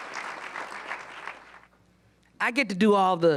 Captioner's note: applause